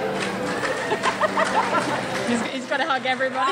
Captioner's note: crowd applauds